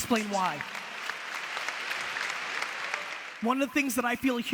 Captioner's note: audience applause